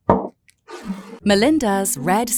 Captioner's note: bottle thuds and scrapes